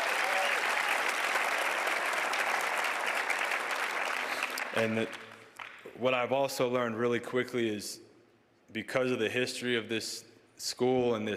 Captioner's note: cheers and applause